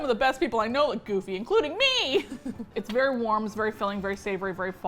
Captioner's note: laughs